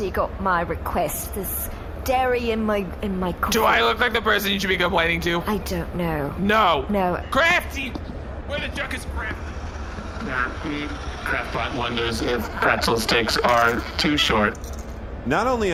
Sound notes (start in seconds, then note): 11.9 robotic monotone; 14.3 crunching a pretzel